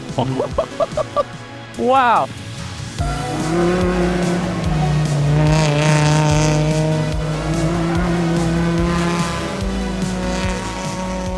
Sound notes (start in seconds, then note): 3.1 engine buzzing